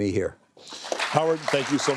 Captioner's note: applause